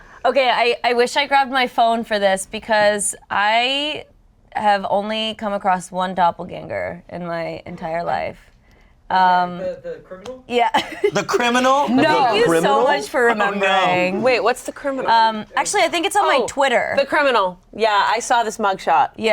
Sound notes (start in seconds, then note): 10.8 laughing